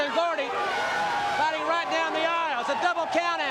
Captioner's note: crowd cheering